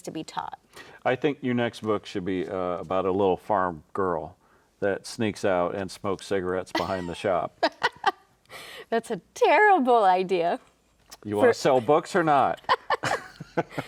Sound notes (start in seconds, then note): 7.6 laughs; 12.2 both laughing